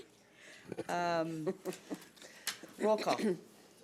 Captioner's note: chuckling